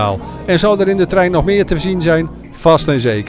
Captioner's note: voiceover